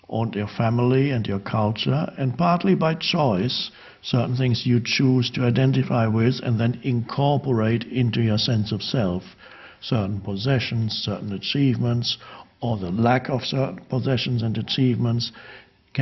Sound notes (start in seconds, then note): none